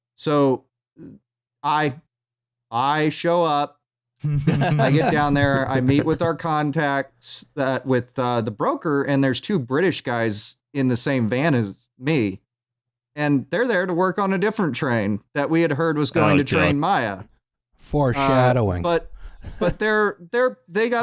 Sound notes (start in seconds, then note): 4.2 laughter